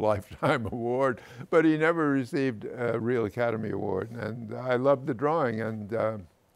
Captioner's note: chuckles